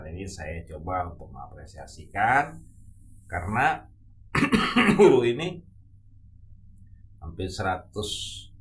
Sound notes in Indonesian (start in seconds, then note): 4.3 berdehem; 4.3 batuk